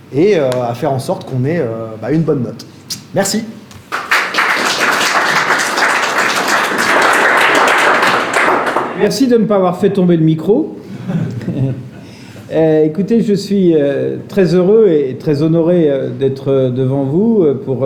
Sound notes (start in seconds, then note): 3.8 applause; 10.9 laughter